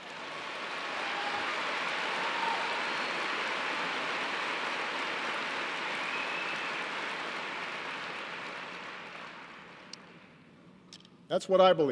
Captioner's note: applause